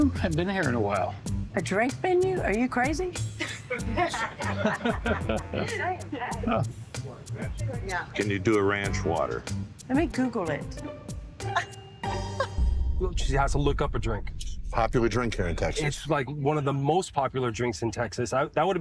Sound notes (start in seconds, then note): 3.3 all laughing; 5.4 easy-going music